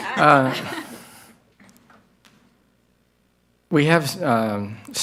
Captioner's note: chuckles